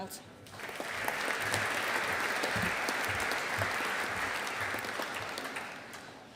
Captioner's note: audience applauding